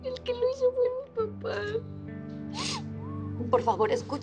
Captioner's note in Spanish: Sollozos